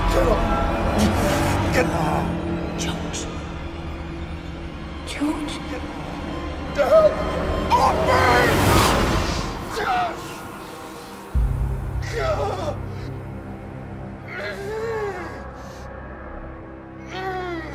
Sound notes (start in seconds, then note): 9.6 Lucian groans in pain; 9.6 tense music